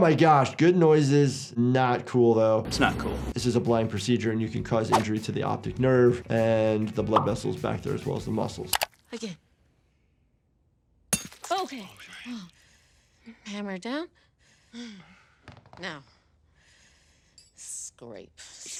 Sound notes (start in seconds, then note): 11.1 hammer clinking